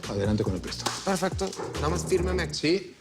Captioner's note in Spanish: Tocan a la puerta